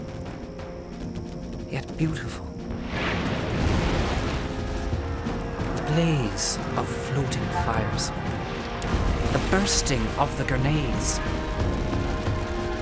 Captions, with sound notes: YET, BEAUTIFUL. [ repeated explosions ] [ repeated explosions ] THE BLAZE OF FLOATING FIRES... BLAZE OF . THE BURSTING OF THE GRENADES, GRENAD,